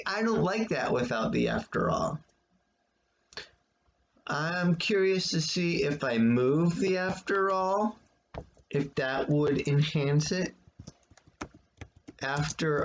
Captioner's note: tapping of keyboard